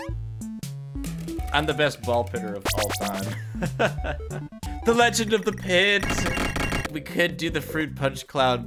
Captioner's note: laughs